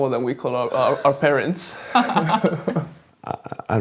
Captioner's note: both laugh